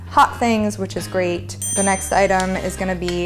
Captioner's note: ding